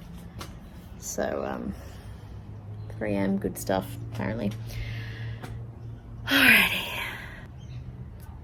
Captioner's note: sighs heavily